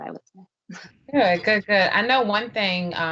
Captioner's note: laughing